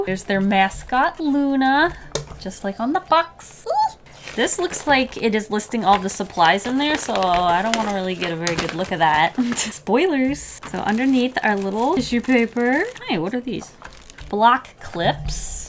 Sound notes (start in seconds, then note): 3.5 excited squeal